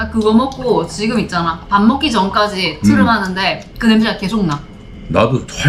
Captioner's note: burp